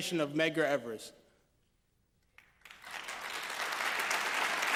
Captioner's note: applause